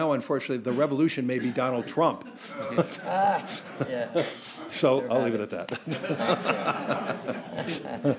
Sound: laughs

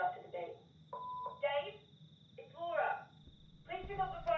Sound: phone beeping

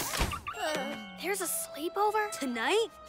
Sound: sighs

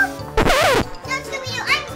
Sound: record scratches

